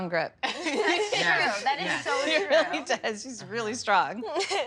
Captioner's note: laughter